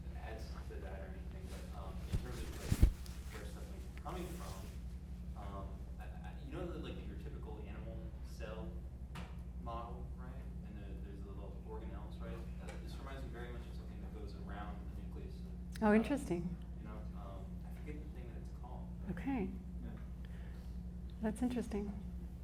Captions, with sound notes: if this adds to that or anything, but in terms of (mic thumping drowns out speech), how many (speaks faintly)? You know, like, in your typical animal cell model, right? And there's little organelles, right? This reminds me very much of something that goes around the nucleus-- - Oh, interesting. - of the cell, you know? I forget the thing that it's called. - Okay, that's interesting.